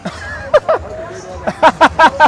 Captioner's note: laughs